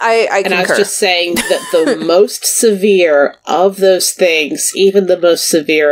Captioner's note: laughs